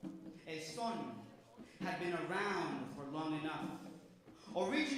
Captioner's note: speaks Spanish word